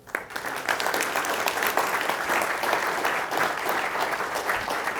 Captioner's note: audience applauding